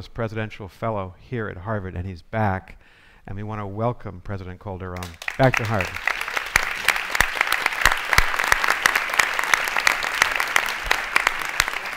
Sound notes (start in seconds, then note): 7.0 audience clapping